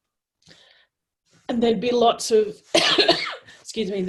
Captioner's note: coughs